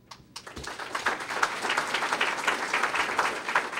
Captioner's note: applause